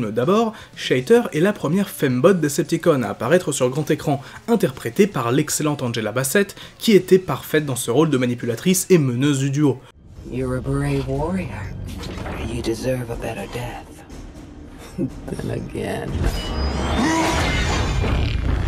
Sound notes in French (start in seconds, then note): 17.1 bruit métallique